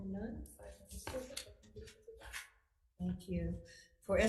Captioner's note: papers shuffling